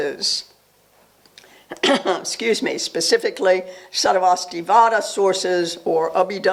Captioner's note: coughs